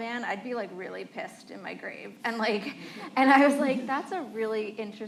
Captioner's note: laughter